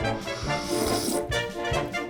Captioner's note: slurps